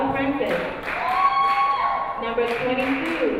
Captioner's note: crowd cheering